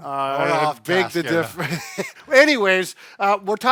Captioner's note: chuckles